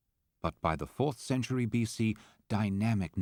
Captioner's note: voiceover